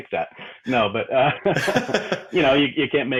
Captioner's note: laughing